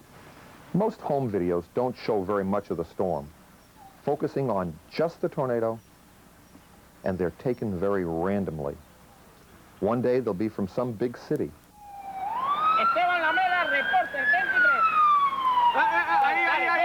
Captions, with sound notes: MOST HOME VIDEOS DON'T SHOW VERY MUCH OF THE STORM, FOCUSING ON JUST THE TORNADO, AND THEY'RE TAKEN VERY RANDOMLY. ONE DAY, THEY'LL BE FROM SOME BIG CITY... [SIRENS] [MEN SPEAKING SPANISH]